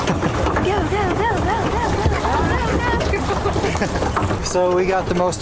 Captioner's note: laughter